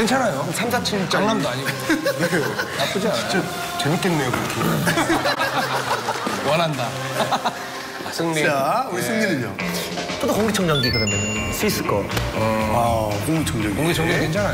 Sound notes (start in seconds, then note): 6.3 laughs